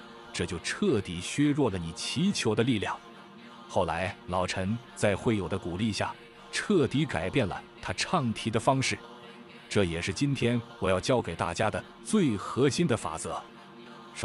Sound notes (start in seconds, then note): 9.0 chanting